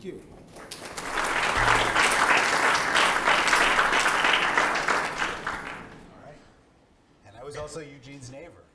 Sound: applause

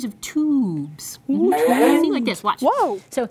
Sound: tube rising noise

